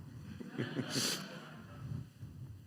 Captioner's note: laughter